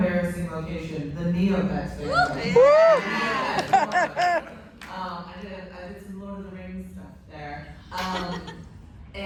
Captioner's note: cheers and laughter